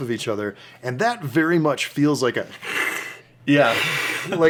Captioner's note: hiss, hiss